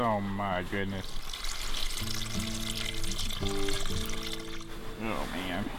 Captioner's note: pouring